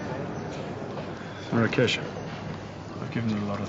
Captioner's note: sighs